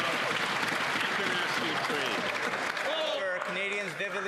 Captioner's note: some Applause